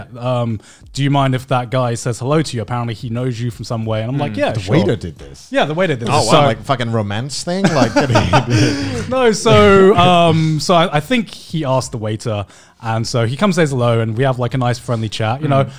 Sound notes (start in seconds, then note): 7.6 man laughing